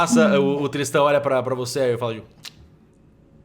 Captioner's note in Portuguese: Estalando a língua